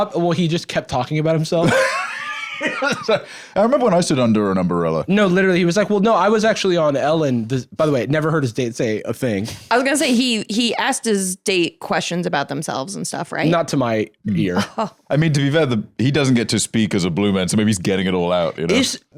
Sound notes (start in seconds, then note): 1.6 laughs